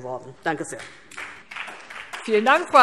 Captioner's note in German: Beifall DIE LINKE und vereinzelt SPD